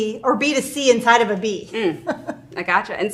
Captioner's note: laughs